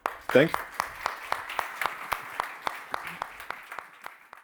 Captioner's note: applause